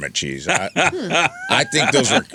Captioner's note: laughing